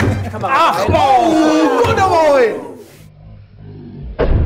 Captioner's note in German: Schmerzvolle Laute